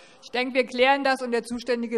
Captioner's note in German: none